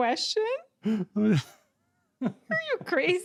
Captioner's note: laughter